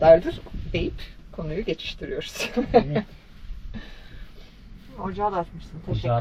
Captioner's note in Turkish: kahkaha